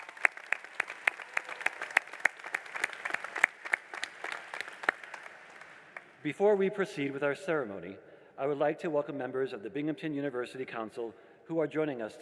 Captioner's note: applause